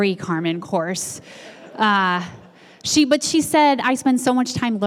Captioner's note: laugh